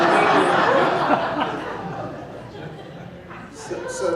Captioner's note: laughing